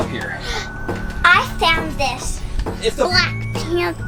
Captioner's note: gasps